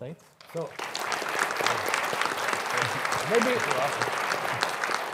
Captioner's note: audience applauds